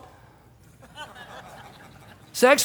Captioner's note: congregation laughs